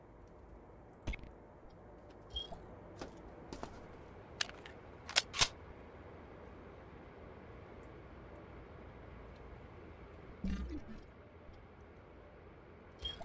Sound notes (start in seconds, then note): 0.3 footsteps